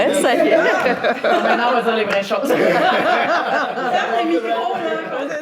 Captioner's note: laughs